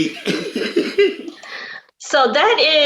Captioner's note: both laugh